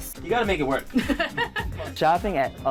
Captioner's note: laughs